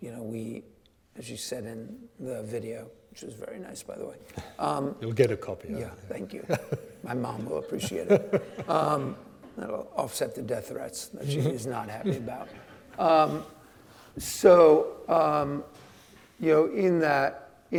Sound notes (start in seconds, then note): 6.4 laughing; 8.3 audience laughing; 11.9 audience laughing